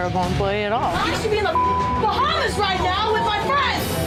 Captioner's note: beep